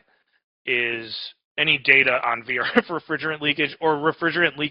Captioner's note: laughs